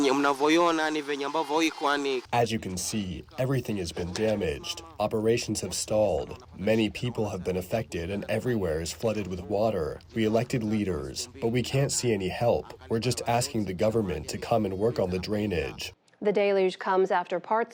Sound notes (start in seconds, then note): 2.8 through translator